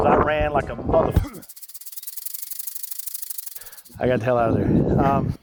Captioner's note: rattle snake rattle